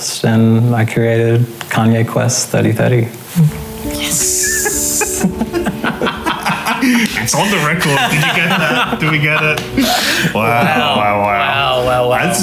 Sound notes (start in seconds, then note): 4.0 laughing